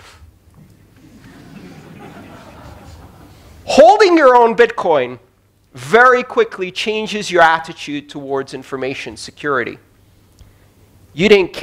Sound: laughter

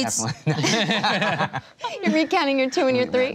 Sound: laughter

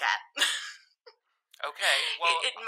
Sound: laughing

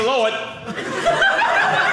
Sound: audience laughing

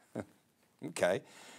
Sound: chuckling

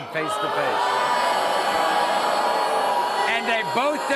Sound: crowd jeers

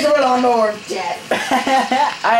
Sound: laughs

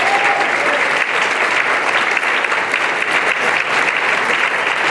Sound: applause and cheering

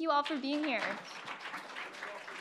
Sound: applause

